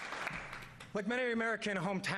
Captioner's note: applause